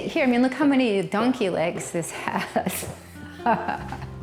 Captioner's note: laughs